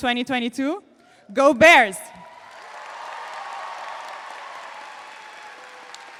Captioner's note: audience applauds